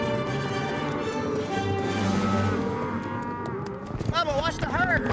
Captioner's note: mooing